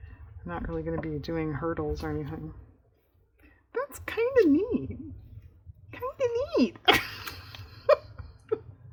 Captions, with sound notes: i'm not really going to be doing hurdles or anything that's kind of neat (laughs) kind of neat